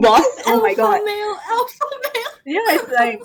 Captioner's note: laughing; laughs